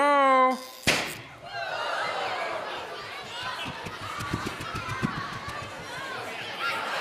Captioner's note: electron arc crackles, cork pops; audience laughing